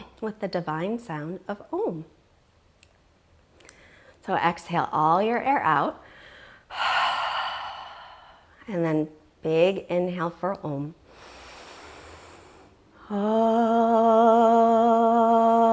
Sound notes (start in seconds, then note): 6.1 deeply exhales; 11.0 deeply inhales